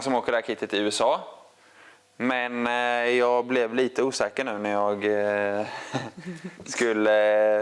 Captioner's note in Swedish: skratt